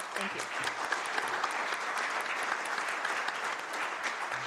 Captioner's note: applause